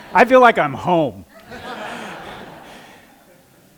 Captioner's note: laughter